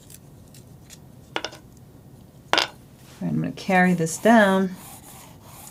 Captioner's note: drawing sounds